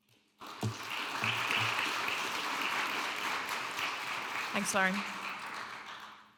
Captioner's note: audience applauding